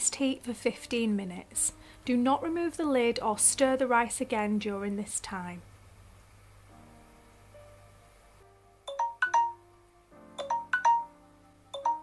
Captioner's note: timer alarm sounds